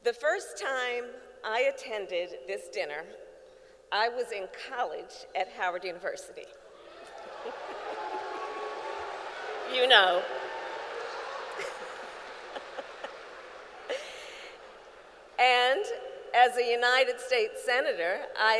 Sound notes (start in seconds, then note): 6.8 applause; 13.2 laughs